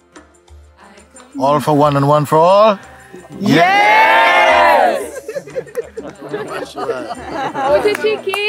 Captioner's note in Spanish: risas